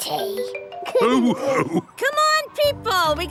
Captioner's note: all laughing